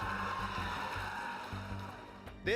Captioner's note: cheering